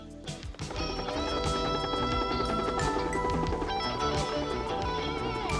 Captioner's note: helicopter whirring